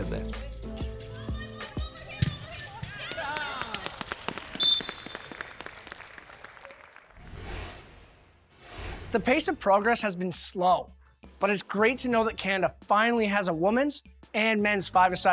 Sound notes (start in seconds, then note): 4.5 whistle blows; 4.7 cheering from crowd